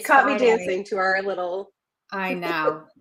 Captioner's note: laughs